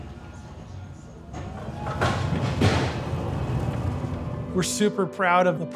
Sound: equipment noise

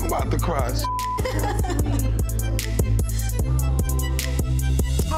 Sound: beep

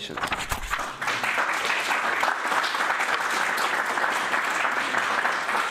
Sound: audience applauds

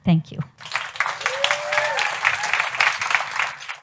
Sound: audience applauds

